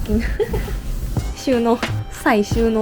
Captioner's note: laughs